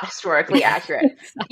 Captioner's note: laughing